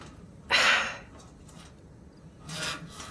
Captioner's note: Adelpha sighs